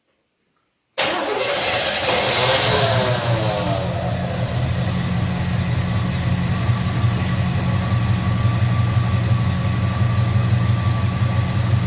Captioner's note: engine starts & idles